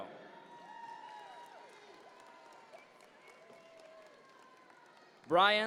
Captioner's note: audience members cheer